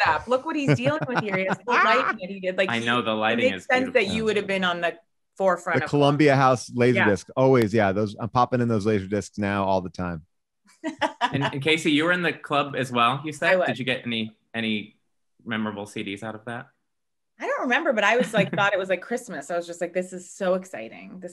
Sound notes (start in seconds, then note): 10.9 laughs